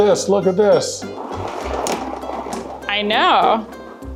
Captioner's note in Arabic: عجلة ترن بهدوء